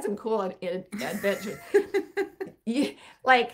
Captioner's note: chuckling